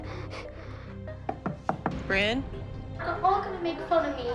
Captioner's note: crying; knocking